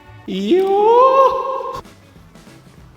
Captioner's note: kabuki scream